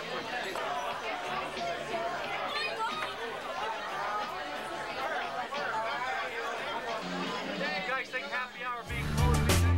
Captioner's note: crowd chatter